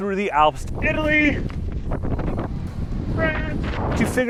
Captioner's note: shouting in high winds